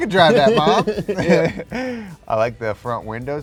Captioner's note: all chuckles